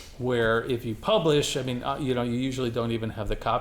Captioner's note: none